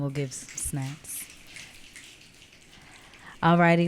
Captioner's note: audience clicking